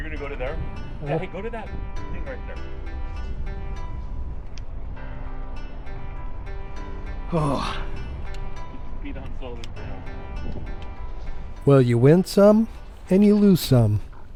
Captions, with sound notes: You're gonna go to there? Hey, go to that thing right there. [Wind blowing] Oh. Get your feet on solid ground. Well, you win some, and you lose some.